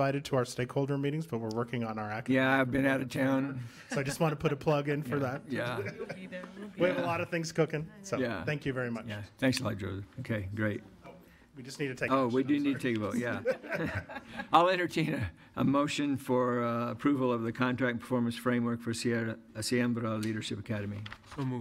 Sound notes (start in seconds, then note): 5.6 laughter; 14.1 audience laughter